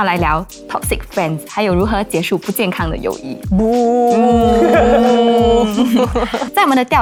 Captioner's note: booo